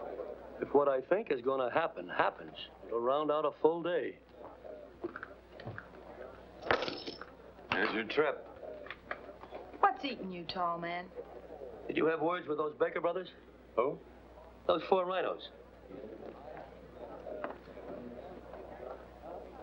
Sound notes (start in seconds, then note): 6.7 coins splashing